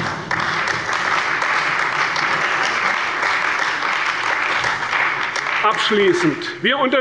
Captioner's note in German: Beifall bei der CDU und dem BÜNDNIS 90/DIE GRÜNEN